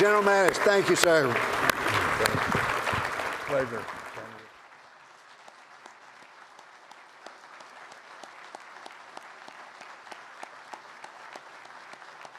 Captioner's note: applause